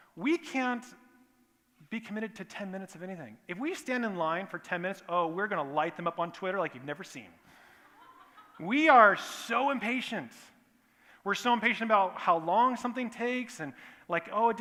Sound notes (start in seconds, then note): 7.8 laughter